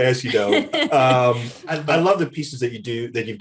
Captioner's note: Desi laughs